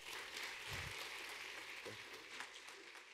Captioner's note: audience claps